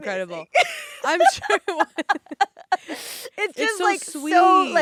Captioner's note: both laughing